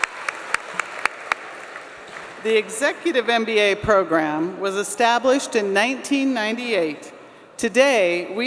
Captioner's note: applause